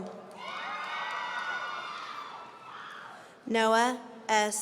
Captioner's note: audience cheering